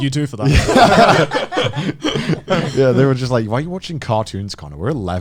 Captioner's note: all laughing